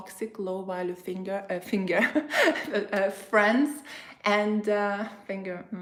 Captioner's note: chuckles